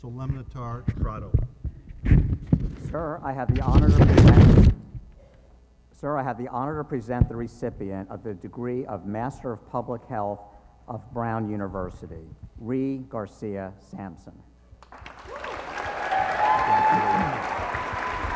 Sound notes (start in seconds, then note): 14.8 applause